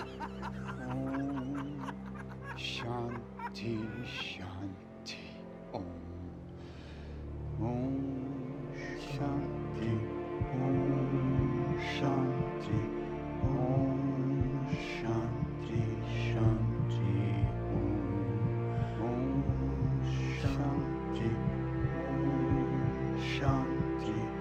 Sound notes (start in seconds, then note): 13.4 heart beats